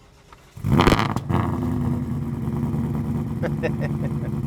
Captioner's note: engine revving; laughs